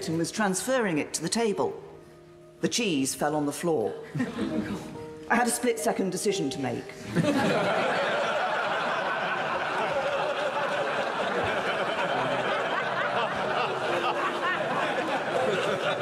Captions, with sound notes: and was transferring it to the table. The cheese fell on the floor. I had a split-second decision to make. (audience laughing)